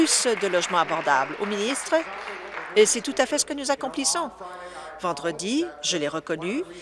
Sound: applause

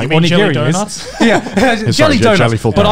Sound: laughing softly

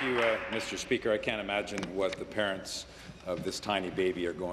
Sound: applause

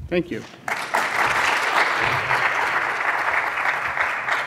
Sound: audience applauds

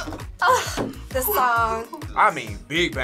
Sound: chuckles

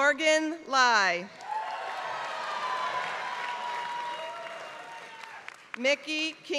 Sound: applause

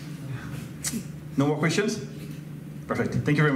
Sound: tongue click

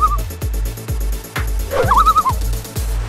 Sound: loon call; loon call

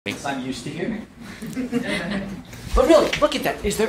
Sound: laughs

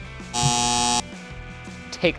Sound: buzzer

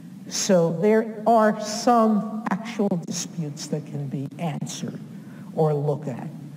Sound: none

